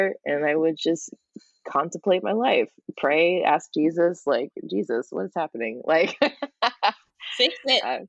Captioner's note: laughs